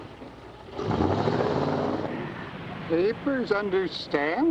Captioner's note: engine revs